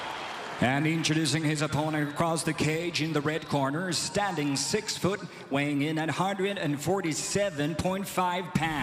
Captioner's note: cheers and applause